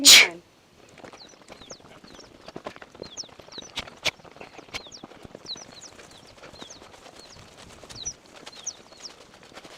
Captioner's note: birds chirping